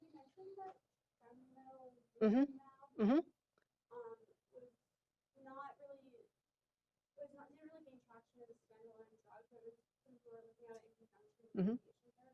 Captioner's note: off microphone